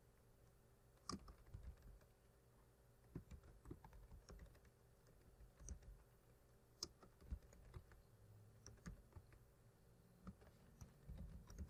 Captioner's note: typing